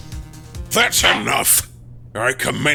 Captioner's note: gavel slams!